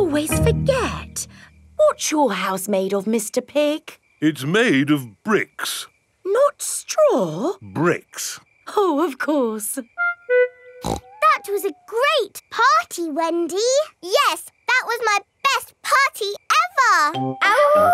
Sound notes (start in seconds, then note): 10.8 snorts